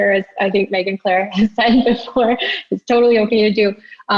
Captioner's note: laughs